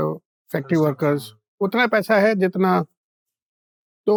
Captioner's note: speaking in Hindi